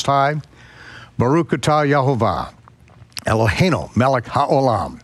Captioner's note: speaks in foreign language